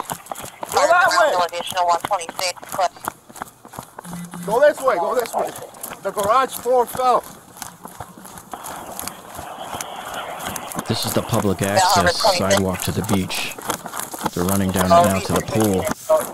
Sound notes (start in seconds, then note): 7.5 feet thumping road; 16.1 radio dispatching in background